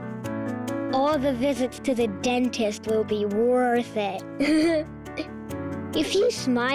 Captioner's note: chuckles